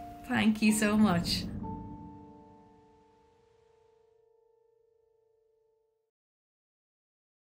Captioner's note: uplifting music; air swooshes